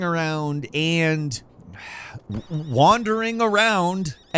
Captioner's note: sighs tiredly